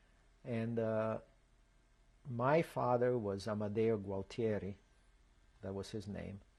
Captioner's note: non-english